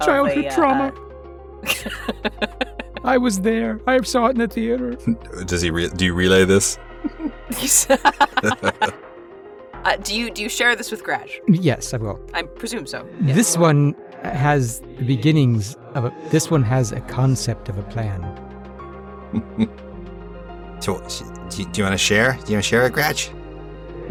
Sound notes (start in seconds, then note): 1.6 chuckles; 7.0 chuckle; 19.3 chuckles